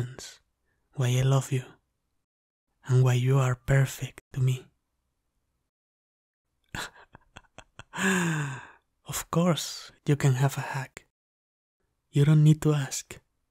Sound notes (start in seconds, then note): 6.7 chuckle